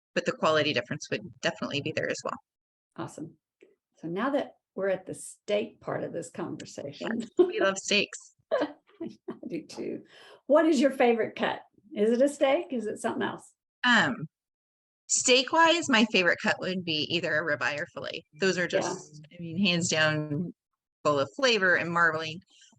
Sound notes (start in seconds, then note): 8.5 chuckling